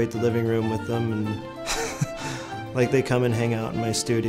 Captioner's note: laughs